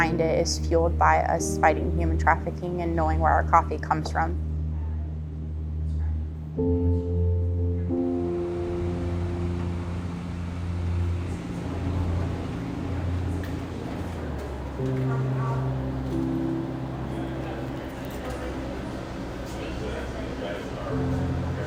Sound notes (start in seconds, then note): 8.9 wind blowing; 14.8 light chatter